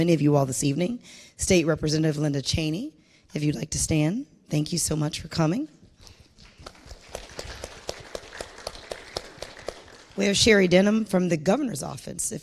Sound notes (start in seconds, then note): 6.2 audience and panel clapping